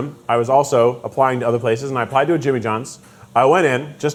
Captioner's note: none